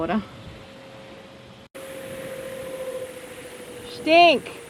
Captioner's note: boat engine whirring